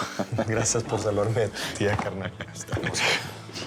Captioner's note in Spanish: risas